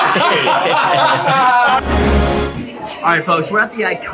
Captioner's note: all laugh